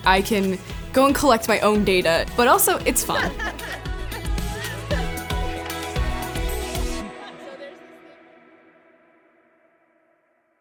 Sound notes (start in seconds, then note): 3.0 student laughing; 4.9 upbeat music